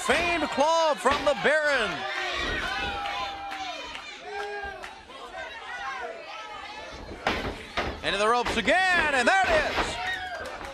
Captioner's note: crowd chatter